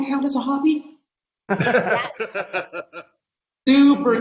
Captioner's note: laughing